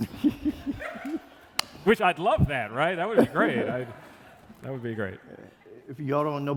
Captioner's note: laughter